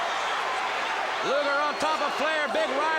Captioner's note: crowd cheering